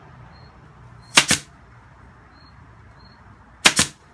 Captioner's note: nailer operating